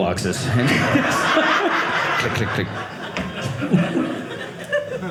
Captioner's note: audience laughing